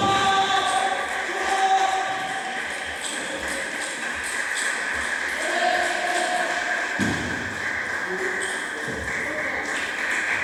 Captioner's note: applause